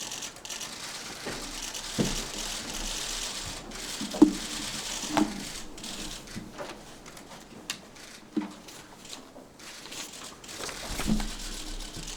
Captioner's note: cameras shuttering